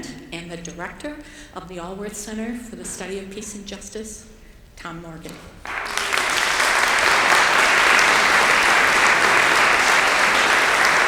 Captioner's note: applause